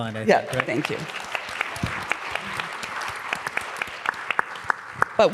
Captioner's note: applause